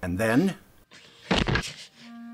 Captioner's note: door slams